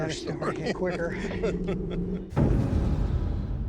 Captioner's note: laughs